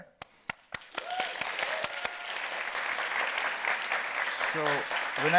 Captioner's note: audience applauding